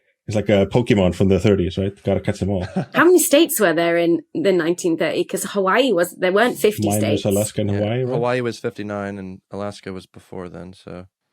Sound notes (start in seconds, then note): 2.0 chuckles